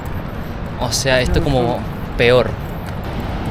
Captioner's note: Spanish